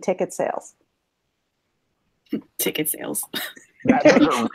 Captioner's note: chuckle